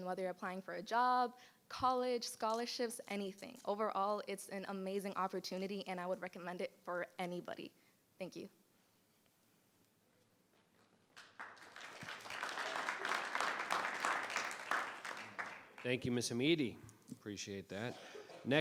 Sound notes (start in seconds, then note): 11.1 audience applauding